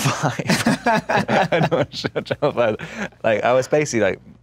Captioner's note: laughs